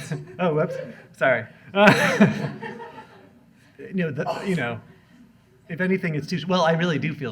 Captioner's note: laughs